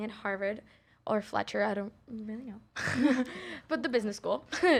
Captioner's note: chuckles